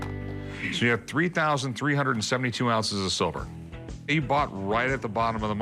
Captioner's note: none